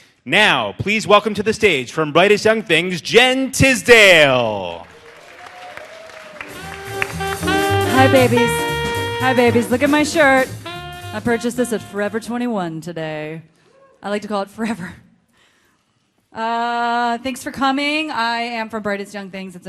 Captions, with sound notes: Now please welcome to the stage, from "Brightest Young Things", Jen Tisdale. (audience applauding) (audience cheering) - Hi, babies. Hi, babies, look at my shirt. I purchased this at Forever 21 today. I like to call it forever. Thanks for coming, I am from "Brightest Young Things",